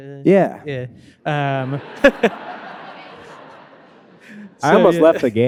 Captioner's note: laughing; audience laughing